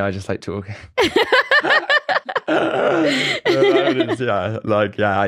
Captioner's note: both laugh